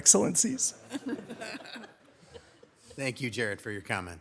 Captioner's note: audience laughs